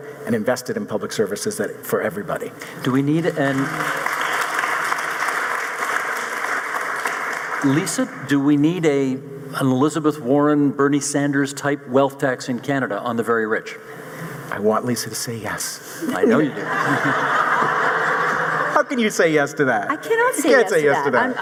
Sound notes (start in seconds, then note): 3.1 audience applauding; 16.1 audience laughing